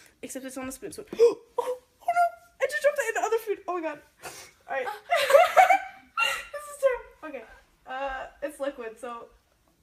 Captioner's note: gasps; laughs